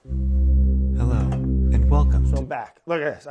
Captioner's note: male Voice